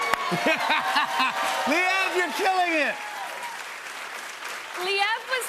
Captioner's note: cheers and applause